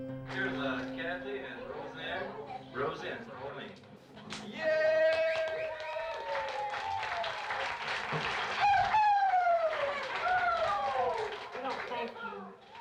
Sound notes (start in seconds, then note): 4.8 cheering; 8.2 whooping